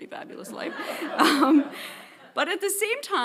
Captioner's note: audience laughing